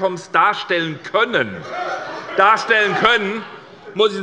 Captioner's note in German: Lachen bei der SPD